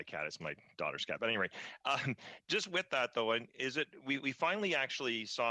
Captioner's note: laughter